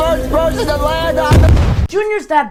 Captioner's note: explosion